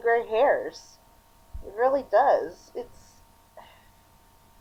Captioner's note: sigh